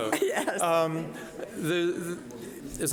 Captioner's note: laughing